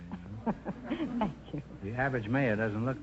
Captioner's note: chuckling